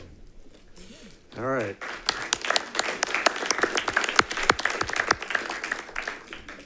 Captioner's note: modest applause rings